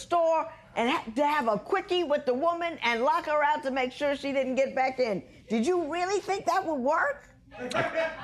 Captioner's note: none